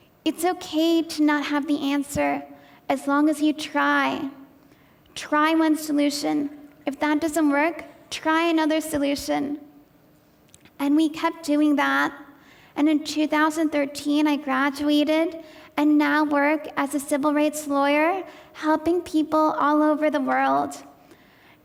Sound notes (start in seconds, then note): none